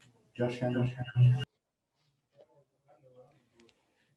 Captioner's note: PA announcement